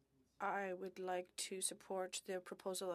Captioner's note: speaking French